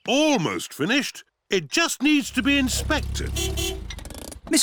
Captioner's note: horn beeps